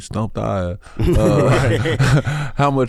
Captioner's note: group laughs